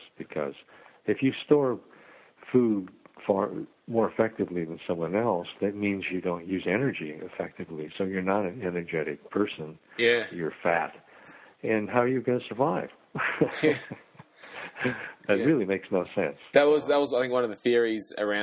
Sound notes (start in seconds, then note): 13.1 laughing